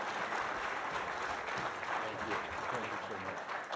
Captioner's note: applause